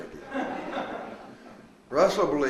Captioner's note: audience laughs